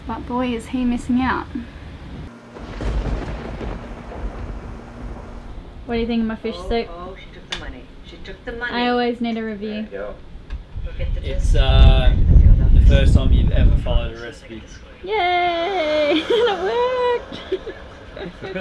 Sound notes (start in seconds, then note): 2.0 thunder crashing